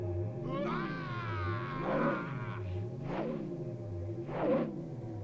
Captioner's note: Gordoza shouting